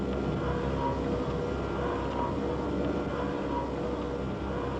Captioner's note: mechanical hum